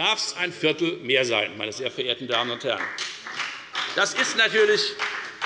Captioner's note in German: Beifall bei der FDP